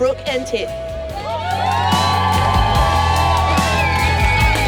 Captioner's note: cheering